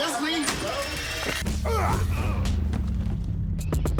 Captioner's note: fighting grunts